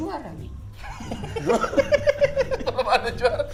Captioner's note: chuckling